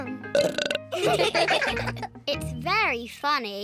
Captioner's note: burps; all laugh